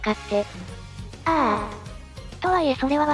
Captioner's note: ahh